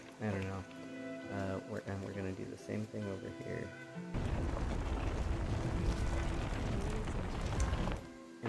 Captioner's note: gravel sounds